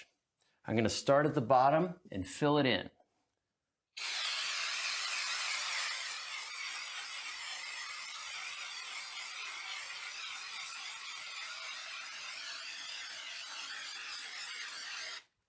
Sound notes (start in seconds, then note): 4.0 spraying